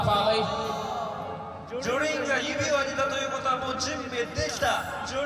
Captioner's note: speaking japanese